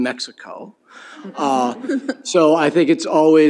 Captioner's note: laughter